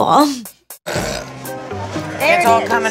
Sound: burps

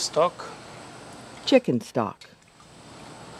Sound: voiceover

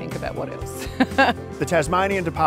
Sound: chuckling

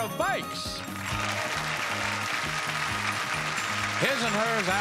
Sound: audience applauding

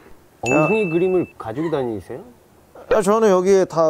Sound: hahahahahahahahahaha

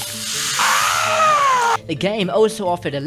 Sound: screaming

